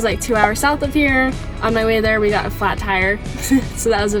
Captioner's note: chuckles